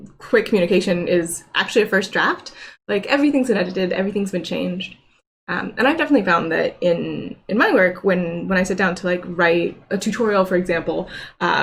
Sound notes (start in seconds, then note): none